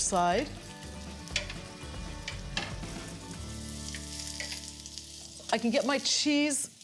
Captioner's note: pears sizzling